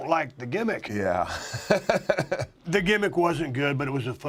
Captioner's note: laugh